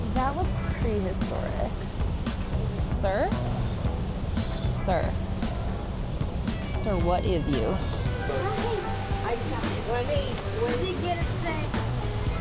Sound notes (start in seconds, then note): 8.5 guests chattering